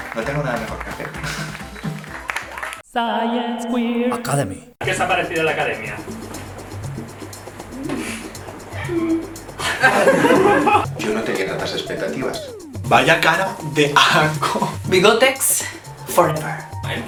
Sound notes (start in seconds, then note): 9.6 they laugh